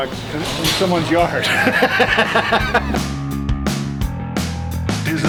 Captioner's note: laughs; funky music